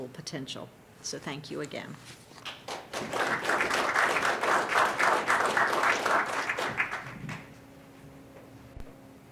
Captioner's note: applause